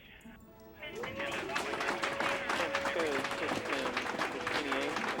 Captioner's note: all cheering and clapping